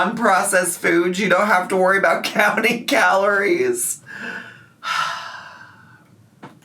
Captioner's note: sighs